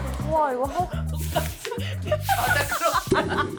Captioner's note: brushing hair swoosh